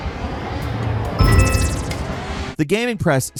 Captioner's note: electronic chiming